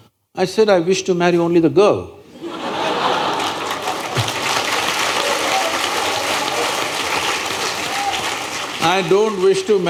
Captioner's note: applause